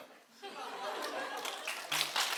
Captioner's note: speaks foreign language; audience laughing; audience applauding